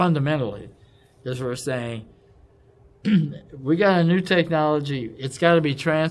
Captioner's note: cough